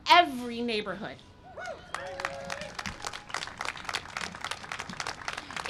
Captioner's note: cheering and applause